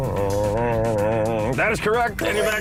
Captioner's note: humming